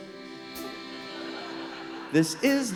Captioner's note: laughter